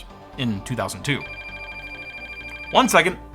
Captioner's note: phone ringing